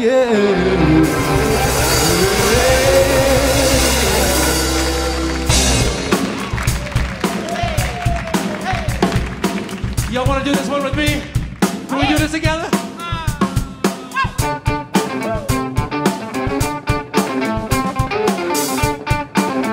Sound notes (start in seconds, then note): 5.2 audience applauds